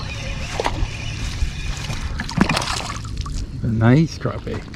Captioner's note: fish splashing